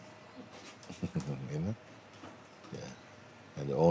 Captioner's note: Lachen